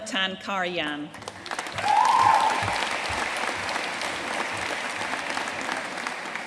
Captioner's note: audience cheering and applauding